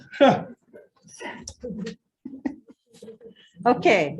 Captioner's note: man chuckles